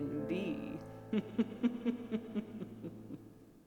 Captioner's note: creepy laughter